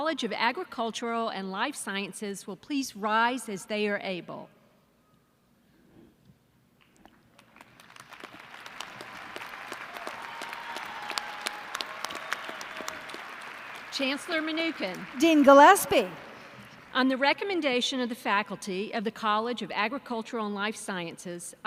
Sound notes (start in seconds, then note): 7.3 applause